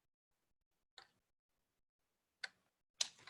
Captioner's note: none